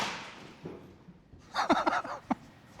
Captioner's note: laughter